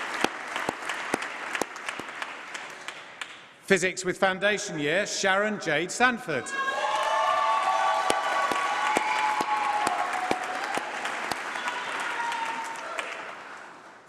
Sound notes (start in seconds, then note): 6.9 applause